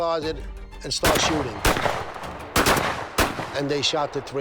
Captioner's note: gunshots banging